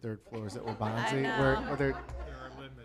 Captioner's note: laughter